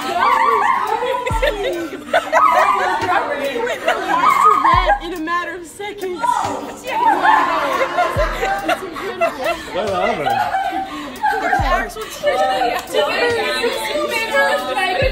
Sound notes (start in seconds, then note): 3.9 so much laughing